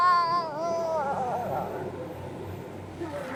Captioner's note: groaning